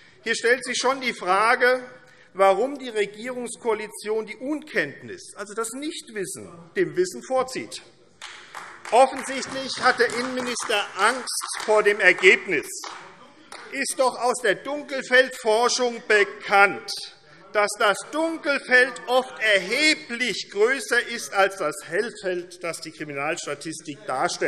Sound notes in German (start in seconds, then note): 8.2 Beifall AfD - Zuruf CDU